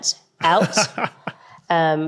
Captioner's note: laughs